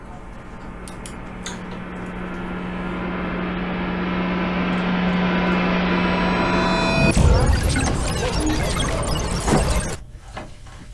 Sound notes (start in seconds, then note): 5.9 eerie sounds and sounds of messages